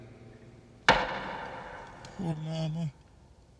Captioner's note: gavel taps